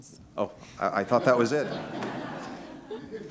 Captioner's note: laughter